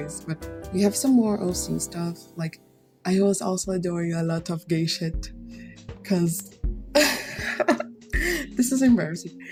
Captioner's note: laughs